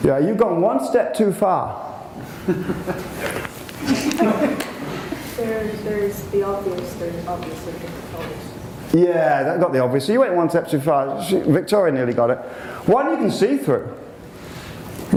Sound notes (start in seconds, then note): 3.8 laughter